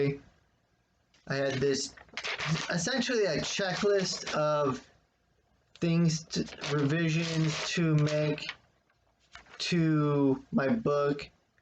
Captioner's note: wrinkling of paper